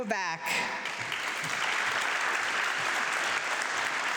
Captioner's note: audience clapping